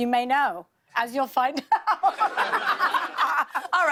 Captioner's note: laughter